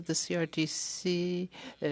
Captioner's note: speaking French